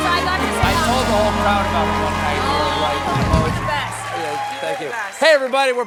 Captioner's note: cheers and applause